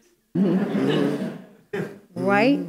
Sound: audience murmurs and laughs

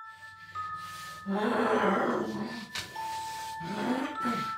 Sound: agonizing groans

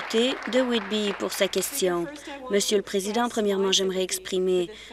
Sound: applause

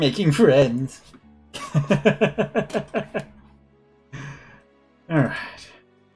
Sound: laughs

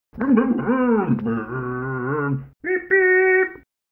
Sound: Scruff makes scooter noises

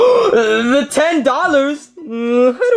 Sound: gasps

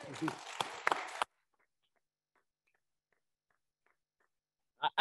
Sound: attendees applauding

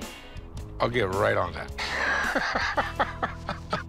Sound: laughs

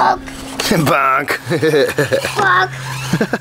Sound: chuckling

